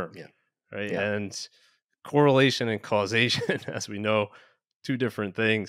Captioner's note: chuckles